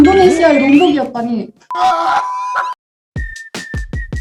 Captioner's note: laughs